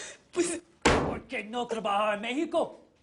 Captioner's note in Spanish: Golpe fuerte en la mesa